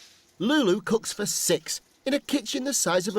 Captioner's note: sizzles